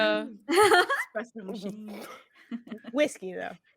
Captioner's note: laughs